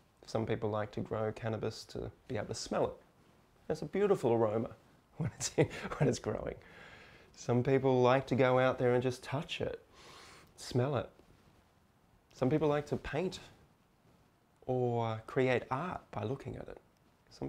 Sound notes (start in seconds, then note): 5.2 chuckles